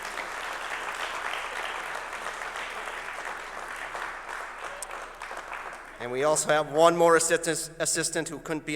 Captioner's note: applause